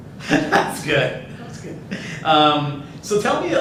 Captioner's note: laughs